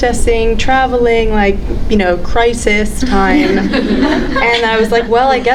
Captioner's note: audience laughing